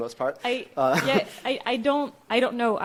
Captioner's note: laughs